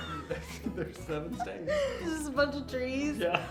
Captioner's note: laughs